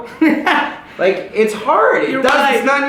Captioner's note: laughter